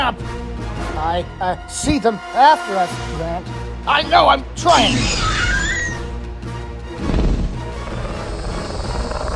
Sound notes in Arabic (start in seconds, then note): 5.1 أصوات فيلوسيرابتور; 8.6 موسيقى درامية